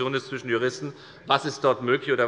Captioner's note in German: none